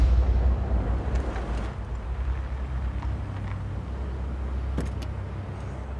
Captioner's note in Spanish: Ruido del vehículo